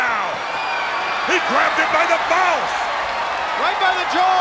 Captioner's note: crowd cheering